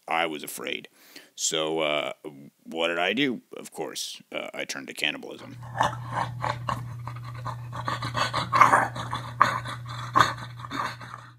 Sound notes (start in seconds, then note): 5.4 devouring noises